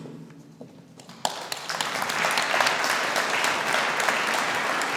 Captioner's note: audience applauding